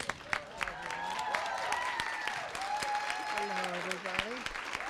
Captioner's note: applause